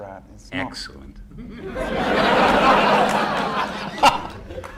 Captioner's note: laughter